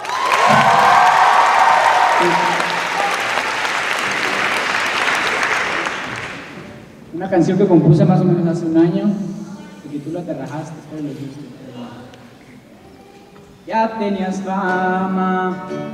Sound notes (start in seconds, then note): 0.0 cheers and applause; 7.5 speaking Spanish